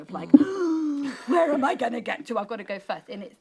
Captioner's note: gasping